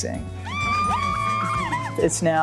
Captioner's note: concert-goers shouting